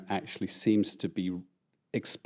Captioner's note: none